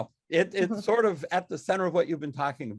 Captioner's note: laughs